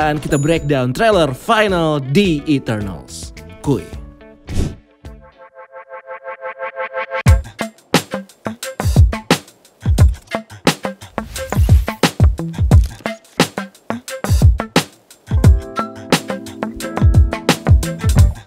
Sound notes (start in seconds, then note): 4.3 transition sound; 7.1 intro music